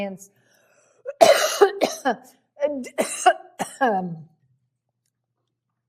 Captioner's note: coughs